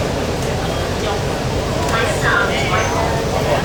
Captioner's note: Cantonese